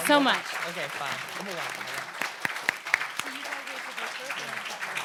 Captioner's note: audience applauds